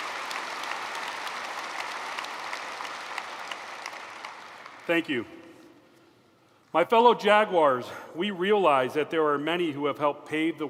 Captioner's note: applause